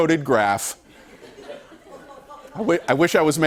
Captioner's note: laughter